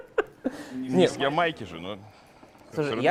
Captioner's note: laughter